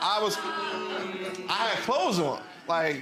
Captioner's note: audience reacting with disbelief